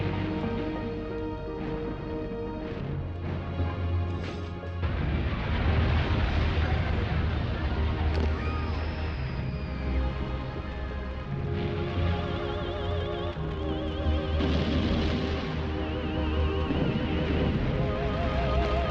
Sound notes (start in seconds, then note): 5.3 people Panicking